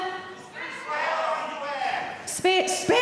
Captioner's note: audiences shouting